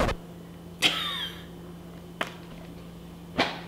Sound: laughing

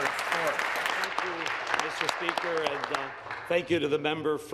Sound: applause

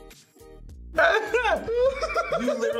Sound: both laugh

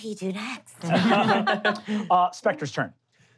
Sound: laughing

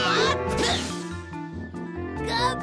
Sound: spits

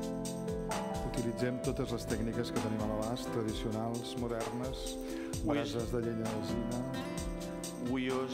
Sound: speaking catalan

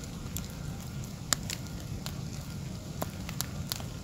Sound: fire crackling

